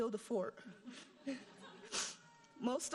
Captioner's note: audience laughing